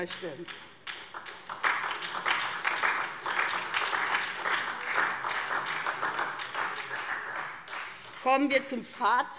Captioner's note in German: Beifall : Uiuiui!